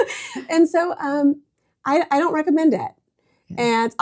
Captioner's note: both Laughing